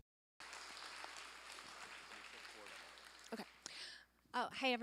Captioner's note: applause